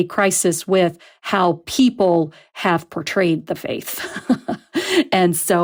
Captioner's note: laughs